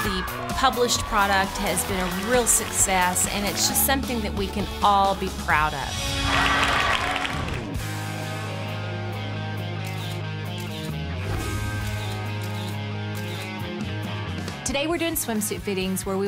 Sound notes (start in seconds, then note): 7.9 camera snaps; 7.9 mellow rock music